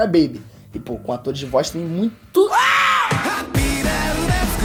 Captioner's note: ahhh